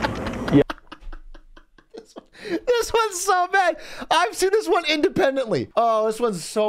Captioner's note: laughs